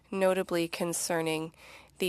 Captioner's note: speaking French